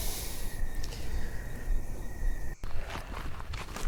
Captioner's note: crickets chirping; footsteps crunching; insects chittering